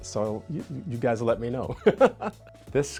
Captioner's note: chuckling